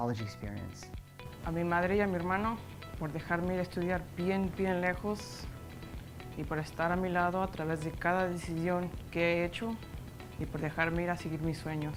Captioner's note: speaking Spanish